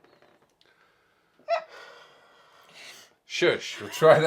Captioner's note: sighs